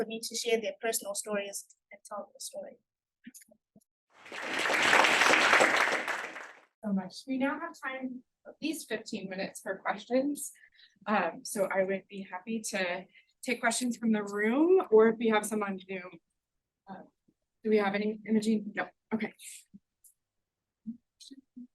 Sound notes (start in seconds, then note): 4.2 attendees applauding